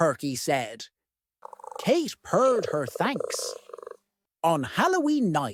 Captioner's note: purring